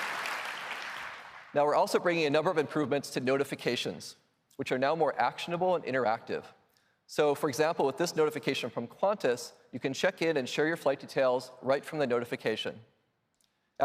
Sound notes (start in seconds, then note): 0.0 applause